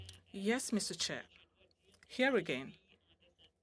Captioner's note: speaking French